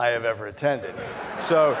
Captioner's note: laughter